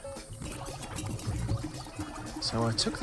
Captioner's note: apparatus bubbling